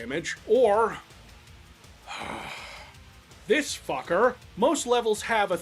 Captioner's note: sigh